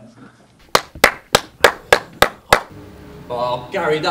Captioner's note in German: Klatschen